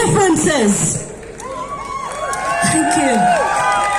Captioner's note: crowd cheering and whooping